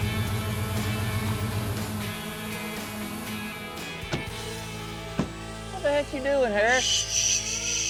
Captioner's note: drone buzzing